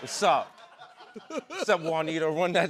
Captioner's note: laughter